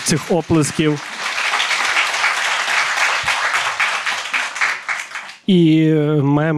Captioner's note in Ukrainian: знову оплески